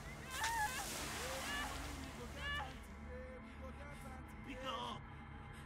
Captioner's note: water spraying; wailing; ominous music; speaking in foreign language